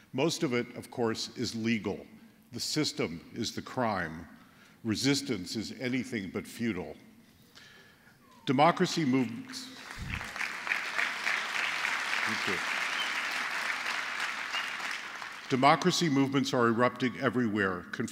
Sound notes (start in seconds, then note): 9.6 applause